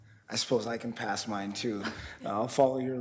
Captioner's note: chuckles